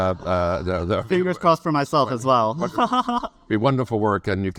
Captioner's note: laughs; laughs